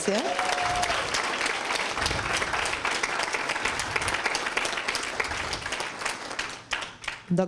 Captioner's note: applause